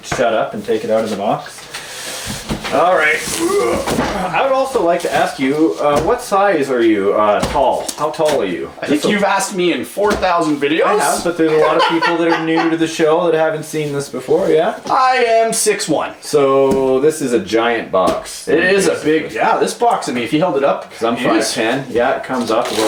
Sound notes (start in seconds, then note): 3.2 grunts